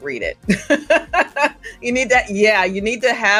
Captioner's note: laughs